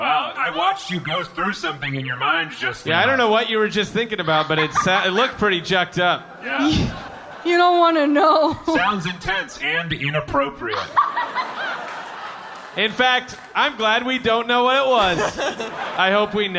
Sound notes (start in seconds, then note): 11.2 laughing